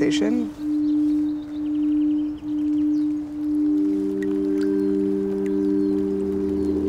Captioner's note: birds chirping